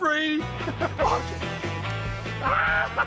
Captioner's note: laughs; screams and laughs